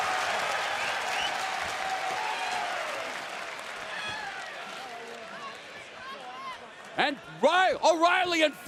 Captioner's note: crowd cheering